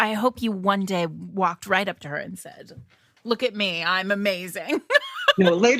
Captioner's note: laughs